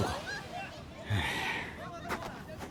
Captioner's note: sigh